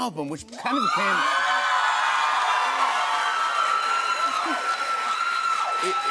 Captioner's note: cheers and applause